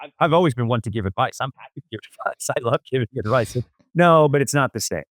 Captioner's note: laughs